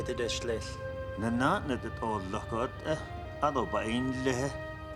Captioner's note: speaking Navajo